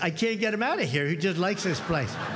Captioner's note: cheers